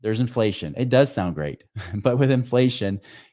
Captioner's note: chuckles